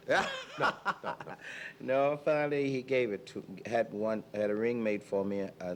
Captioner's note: laughing together